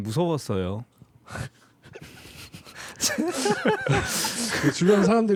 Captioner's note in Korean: 당황스러운 웃음